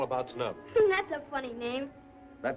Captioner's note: laughs